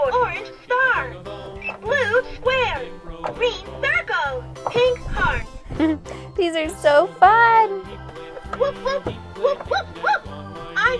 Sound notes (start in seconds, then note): 5.7 giggles